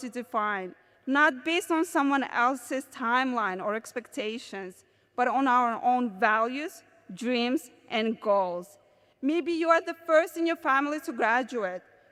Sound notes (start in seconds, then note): none